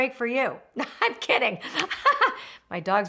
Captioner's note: laughing